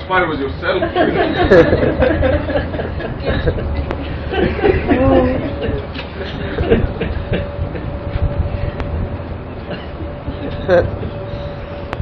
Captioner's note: Gülüyorlar